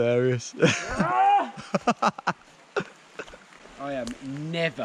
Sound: loudly grunts

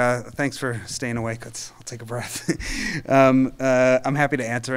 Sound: chuckling

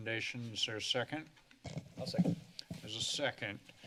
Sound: mic noise

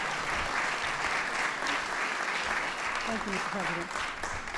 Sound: applause

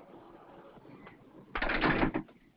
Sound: door bangs shut

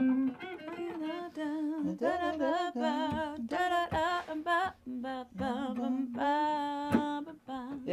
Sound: humming

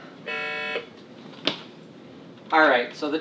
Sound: machine beeps

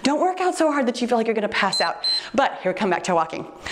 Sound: timer beeps

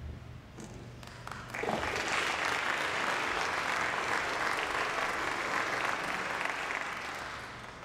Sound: applause

